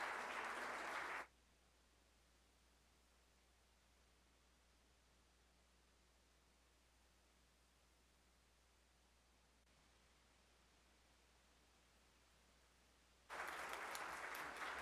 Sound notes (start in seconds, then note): 0.0 sound is cut as applause continues; 0.0 applause; 13.3 applause